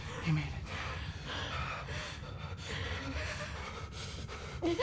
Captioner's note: both shivering